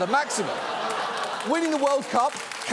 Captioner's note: audience laughs